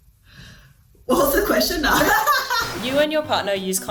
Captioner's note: laughing